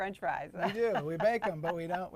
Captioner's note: laughs